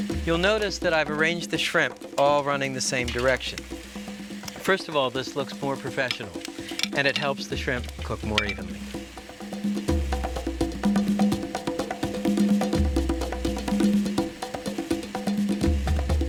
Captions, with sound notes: You'll notice that I've arranged the shrimp all running the same direction. First of all, this looks more professional and it helps the shrimp cook more evenly. (upbeat music) (shrimp sizzling)